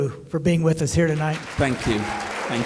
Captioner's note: applause